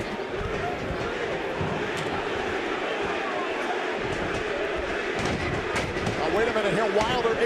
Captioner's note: crowd cheering